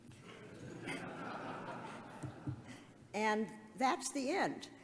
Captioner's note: audience laughs